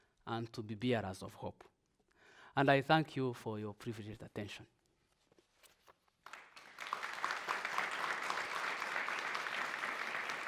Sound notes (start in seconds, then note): 6.2 audience applauding